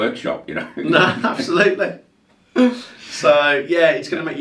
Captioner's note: laughing